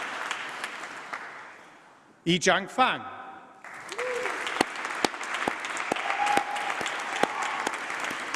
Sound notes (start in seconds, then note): 3.6 applause